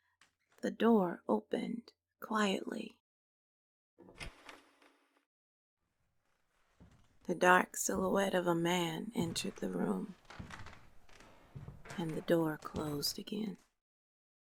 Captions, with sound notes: the door opened quietly, [Door opens slowly] [Heavy footsteps continue, no longer muted by the barrier of the wooden door] the dark silhouette of a man entered the room, and the door closed again.